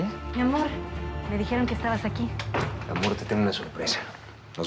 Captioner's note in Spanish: sonido al abrir la puerta